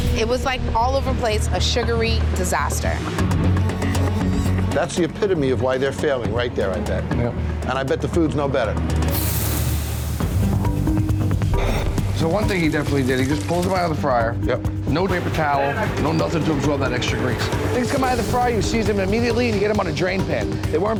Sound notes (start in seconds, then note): 9.1 grill sizzles